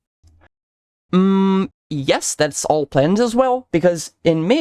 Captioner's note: mmm